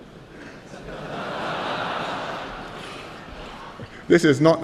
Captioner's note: laughter